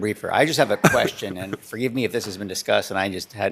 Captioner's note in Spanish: risas